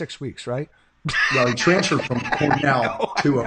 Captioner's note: laughing